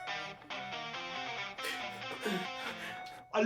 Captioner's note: Larry gasping and sobbing